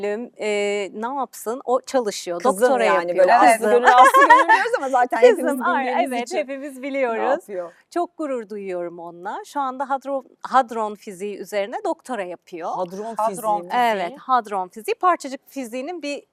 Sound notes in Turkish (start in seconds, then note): 3.8 kahkaha